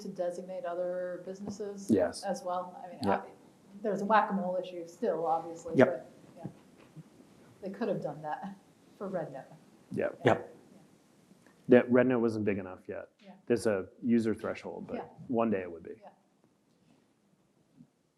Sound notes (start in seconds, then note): none